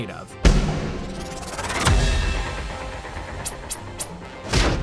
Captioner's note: whirring sound